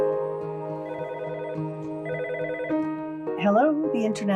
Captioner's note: telephone rings